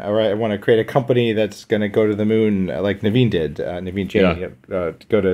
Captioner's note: mutters